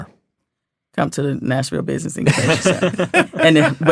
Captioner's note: laughing